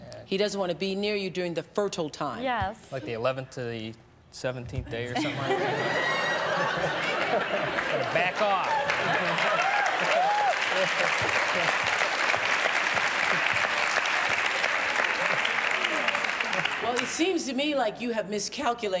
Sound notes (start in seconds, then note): 5.0 laughter; 9.0 applause